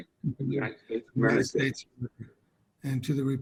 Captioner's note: crowd